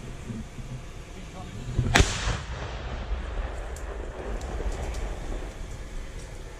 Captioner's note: gunshot